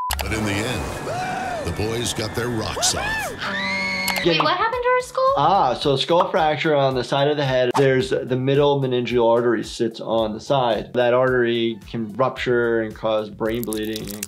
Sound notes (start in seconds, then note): 3.0 woman screaming